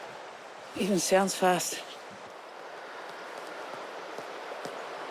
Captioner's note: water gushes